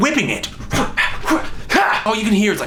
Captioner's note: swooshing noises